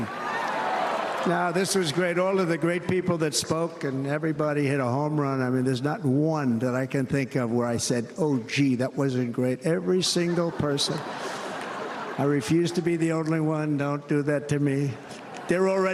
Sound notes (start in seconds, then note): 0.0 cheers and applause